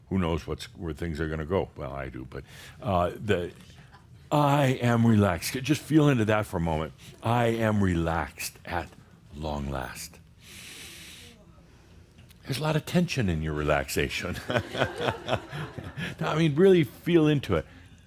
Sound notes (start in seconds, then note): 10.4 Adamus takes a deep breath; 14.4 Adamus chuckles